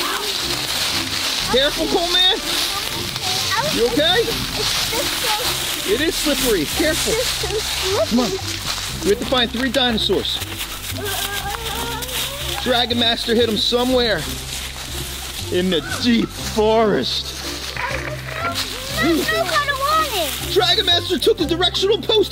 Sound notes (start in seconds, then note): 17.4 static crackles